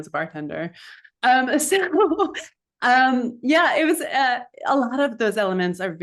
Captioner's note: laughs